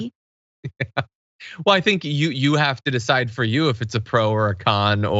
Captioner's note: laugh